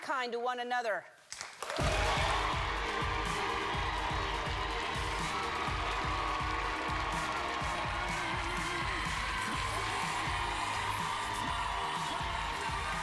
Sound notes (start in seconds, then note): 0.9 cheers and applause; 7.4 cheers and applause